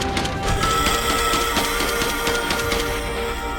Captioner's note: gun blasting; beast shrieks